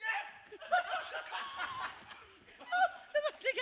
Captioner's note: cheers